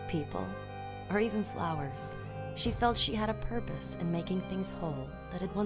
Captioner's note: none